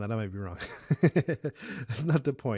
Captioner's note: laughs loudly